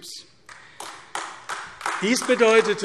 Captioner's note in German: Beifall AfD